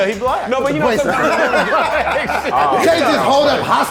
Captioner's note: all laughing